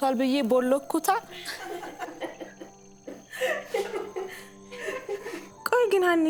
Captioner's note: laughter